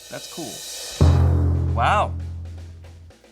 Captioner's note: thud booms